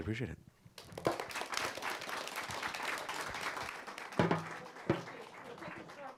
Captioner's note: audience clapping